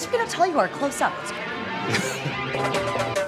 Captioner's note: chuckles